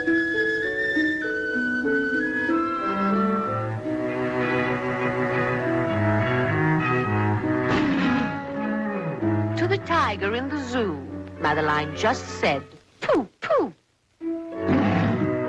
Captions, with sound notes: (gentle music continues) (gentle music) (tiger roars) To the tiger in the zoo, Madeline just said, "Poo-poo".